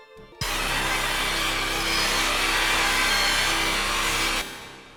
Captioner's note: sudden discordant static noise